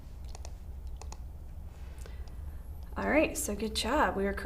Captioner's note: mouse clicks